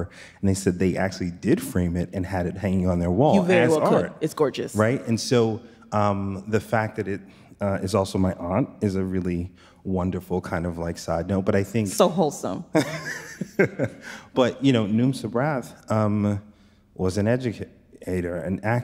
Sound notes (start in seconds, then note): 12.8 chuckles